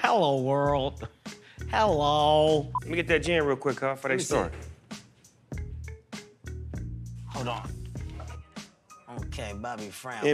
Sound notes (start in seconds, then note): none